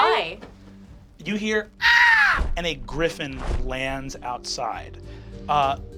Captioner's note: squawking